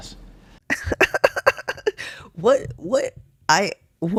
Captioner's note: laugh